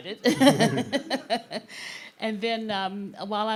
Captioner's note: laughing